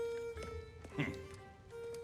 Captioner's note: laugh